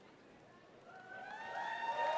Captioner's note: applause